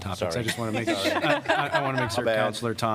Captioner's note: laughter